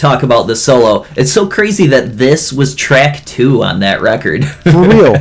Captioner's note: laughs